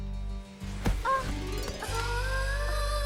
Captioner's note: gasps